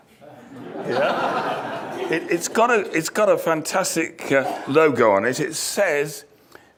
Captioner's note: laughter